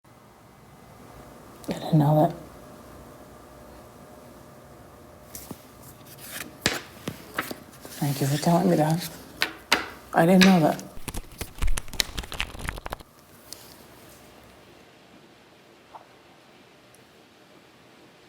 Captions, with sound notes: - I didn't know that. Thank you for telling me that. I didn't know that. (cards flipping)